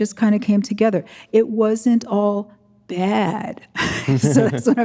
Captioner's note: chuckles